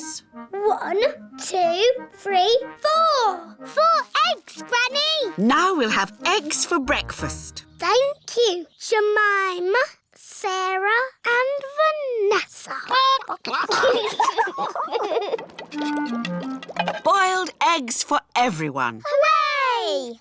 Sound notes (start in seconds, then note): 12.9 children giggle; 13.0 chickens chatter